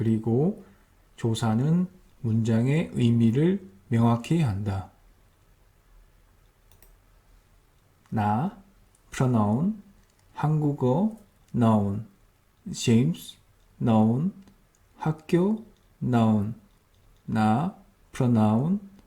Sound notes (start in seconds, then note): 11.0 Korean